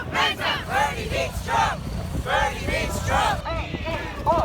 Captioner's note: crowd chanting